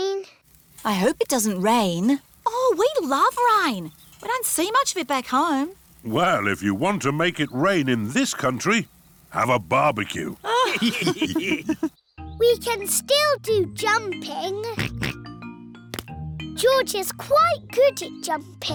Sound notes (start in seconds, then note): 10.4 all laughing; 14.7 oinks